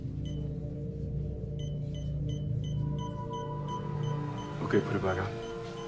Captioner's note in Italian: suoni intermittenti sempre più rapidi